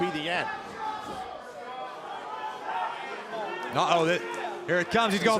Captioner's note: crowd cheering